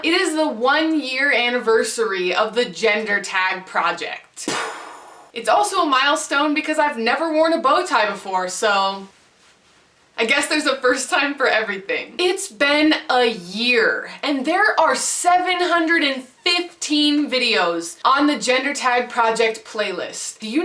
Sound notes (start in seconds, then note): 4.5 explosion noise